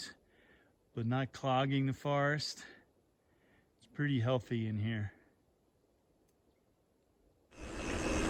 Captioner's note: bike whirring